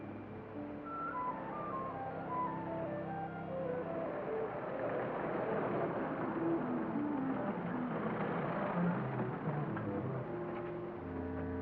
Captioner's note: somber music; vehicles rumble past; cart rattles; somber music